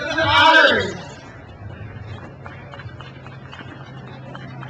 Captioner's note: crowd applauds